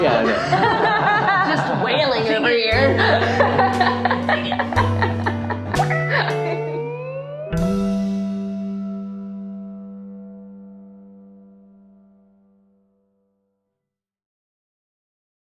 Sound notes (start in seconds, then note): 0.2 laughing; 5.0 laughing